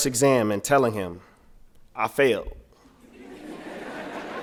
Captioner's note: laughter